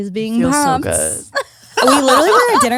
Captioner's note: laughs